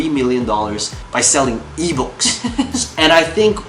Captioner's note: laughing